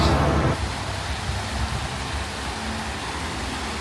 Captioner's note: water gushing